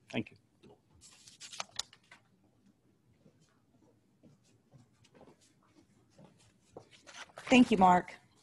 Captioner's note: silence